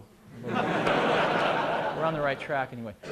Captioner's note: laughter